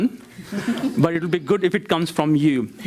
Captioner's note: crowd laughs